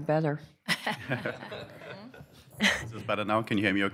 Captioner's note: laughter